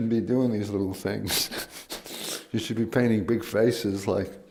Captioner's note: laughs